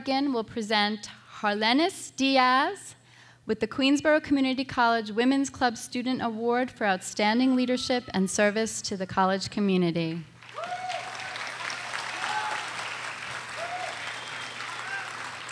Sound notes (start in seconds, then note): 10.4 audience applauding